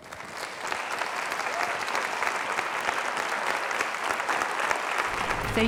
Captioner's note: audience clapping